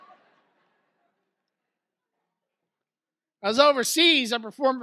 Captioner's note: audience laughs